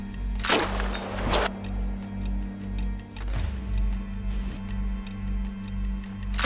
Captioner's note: tense music; bullet whizzing; gun fires